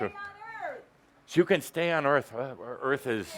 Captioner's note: shouting